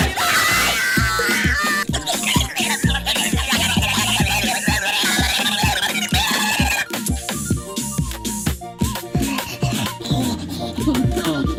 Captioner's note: gremlin noises